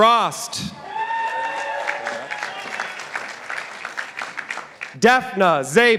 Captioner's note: participants applauding